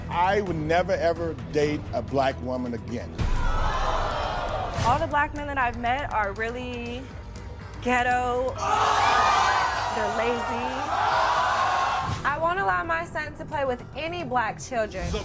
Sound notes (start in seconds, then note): 3.2 crowd gasps in shock; 8.6 crowd screams in disgust; 11.0 crowd groans